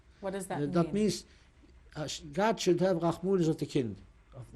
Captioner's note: non-english; german